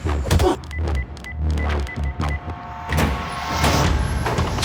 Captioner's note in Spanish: Golpes; Bip